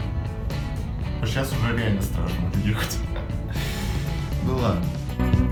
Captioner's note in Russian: смеётся